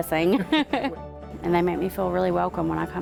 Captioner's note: laughs